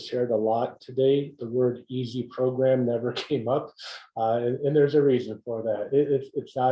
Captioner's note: laugh